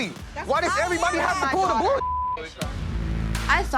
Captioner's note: beep